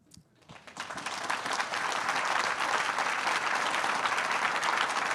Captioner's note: attendees applauding